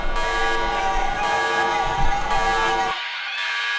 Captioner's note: shouting